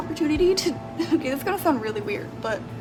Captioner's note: laughs